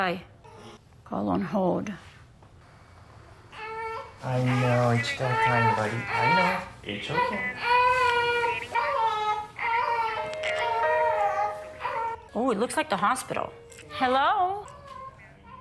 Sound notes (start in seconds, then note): 7.1 baby crying; 10.0 phone rings